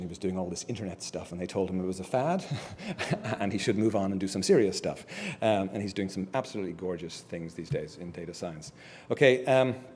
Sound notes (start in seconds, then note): 2.5 laugh